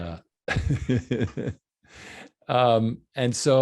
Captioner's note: laughing